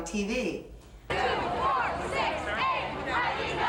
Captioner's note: chanting